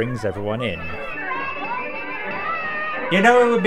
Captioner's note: rings bell